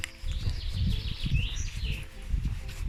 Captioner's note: birdsong